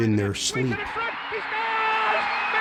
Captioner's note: crowd cheering